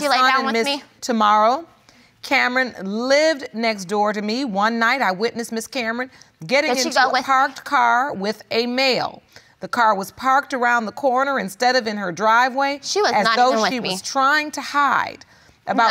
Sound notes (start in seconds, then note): none